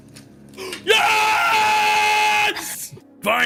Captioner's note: gasps